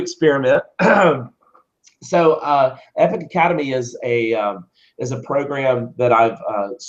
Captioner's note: cough